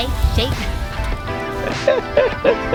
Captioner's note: laugh